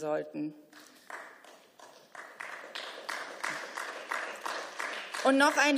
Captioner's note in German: Beifall